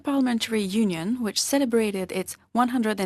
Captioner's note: speaking in French